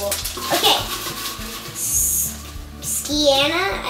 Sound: rustling

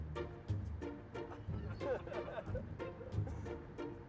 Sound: laughter

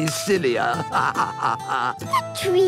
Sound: laughing

